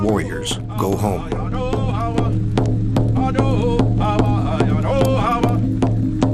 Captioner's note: indian vocalizing in foreign language